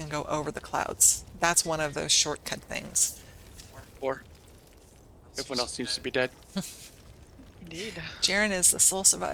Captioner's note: laughter